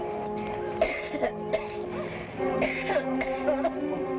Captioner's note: woman coughing